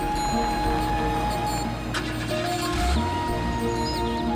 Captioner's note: engine turns over